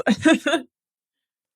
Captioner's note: laugh